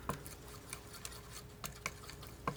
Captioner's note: scratching